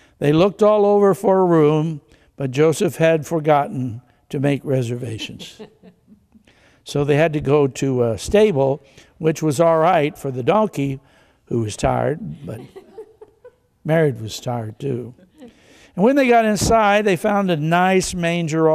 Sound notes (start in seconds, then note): 5.0 congregation chuckles; 12.1 congregation laughs